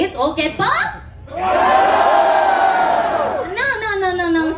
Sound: cheers

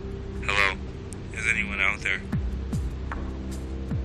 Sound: radio

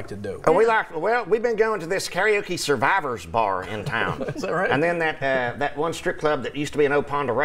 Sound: laughter

